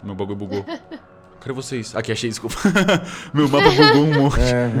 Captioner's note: laughter